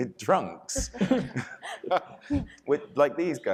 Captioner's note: panelists laughing